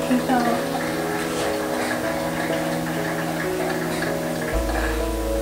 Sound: people clapping sound effect in the background

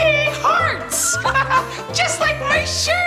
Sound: laughs

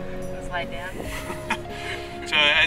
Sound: laughs

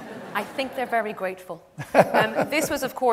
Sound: David laughs

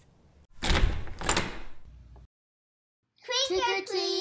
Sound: door opens

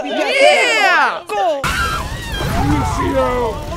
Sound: screams of terror

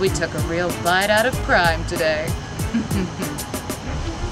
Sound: chuckles to self

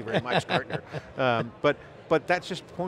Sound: laughs

